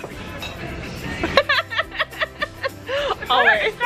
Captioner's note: laughing